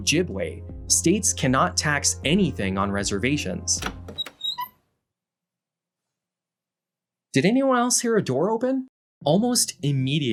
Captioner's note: door open sound